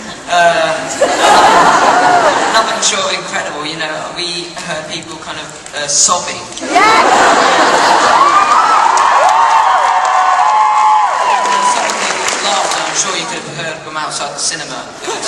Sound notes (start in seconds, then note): 6.6 audience reacts